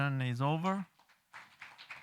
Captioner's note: applause